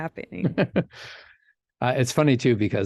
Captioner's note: chuckles